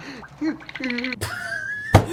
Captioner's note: teeth noises; giggle